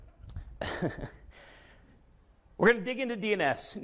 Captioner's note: chuckles